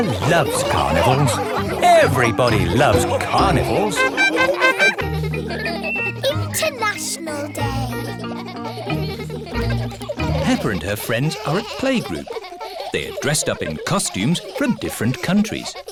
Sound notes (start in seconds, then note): 4.3 laughing